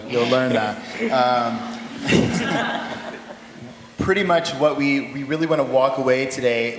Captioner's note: laughter